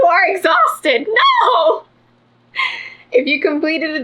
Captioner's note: laughs